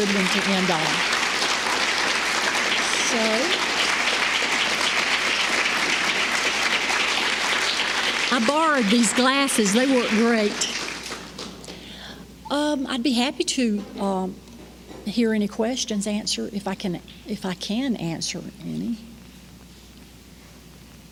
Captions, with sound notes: That's a good one to end on. [applause] I borrowed these glasses they work great. I'd be happy to hear any questions, answer if I can answer any.